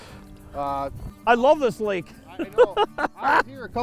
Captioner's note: voiceover